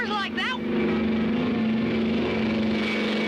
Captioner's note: whirring